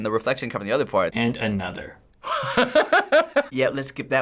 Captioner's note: laughing